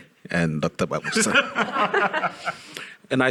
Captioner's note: audience laughing